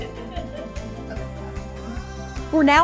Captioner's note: laugh